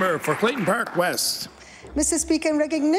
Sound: applause

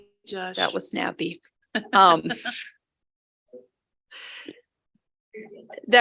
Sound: board member laughs

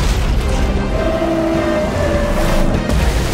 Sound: roaring

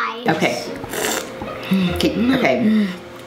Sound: slurps

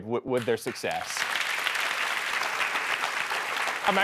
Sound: applause

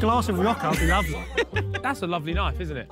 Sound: laughs

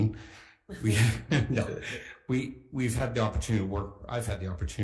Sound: laughs

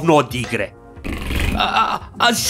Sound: fart from the game

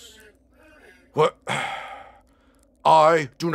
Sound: sigh

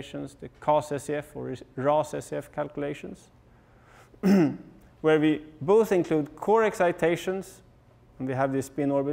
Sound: cough

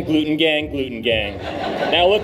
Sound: laughter

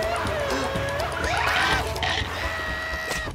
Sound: screaming

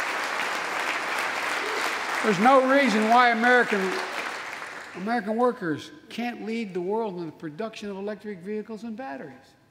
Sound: applause

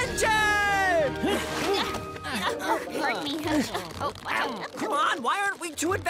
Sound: all grunting

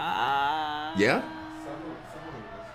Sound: applause

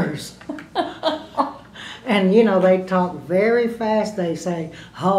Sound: laughter

